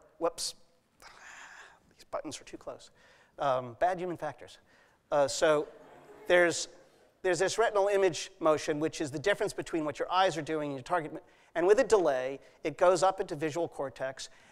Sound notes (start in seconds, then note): 5.2 laughter